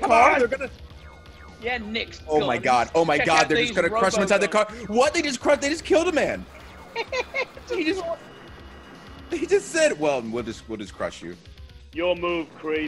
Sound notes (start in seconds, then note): 6.5 laugh